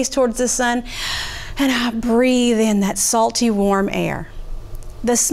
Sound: inhales

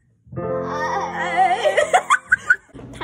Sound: both laugh

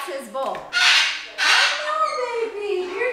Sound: Jersey squawks

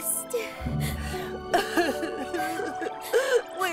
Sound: both crying

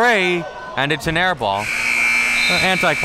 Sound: buzzer

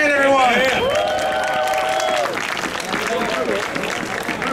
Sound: audience cheering

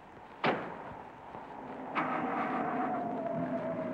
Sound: engine starting

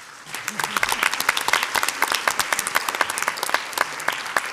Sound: audience applauds

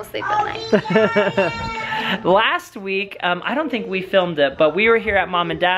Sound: laughing

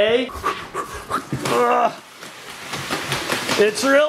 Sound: panting; grunting

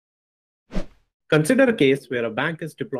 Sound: air whooshing

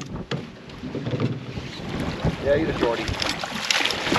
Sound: fish splashing

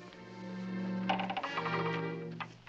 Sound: creaking

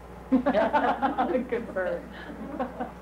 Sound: laughing

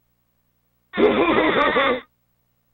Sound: laughing

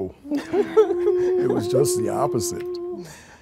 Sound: group laughing

